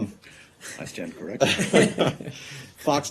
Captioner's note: laughter